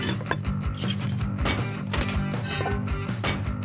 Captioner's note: thunk-click